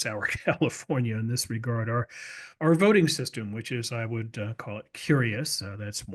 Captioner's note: laugh